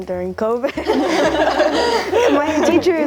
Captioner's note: laughing